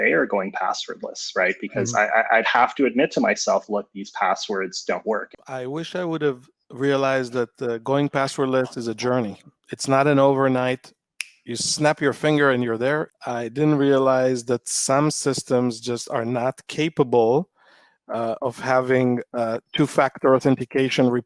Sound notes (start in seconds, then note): 11.2 snaps finger